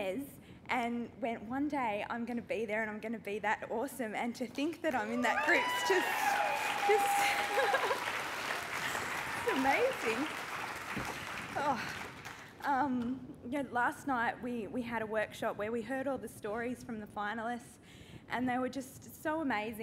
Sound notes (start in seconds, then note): 5.0 cheering and applause; 6.8 laughs